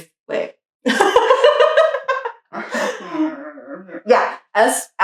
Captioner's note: laughing